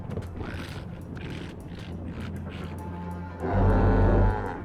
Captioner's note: dinosaurs Roaring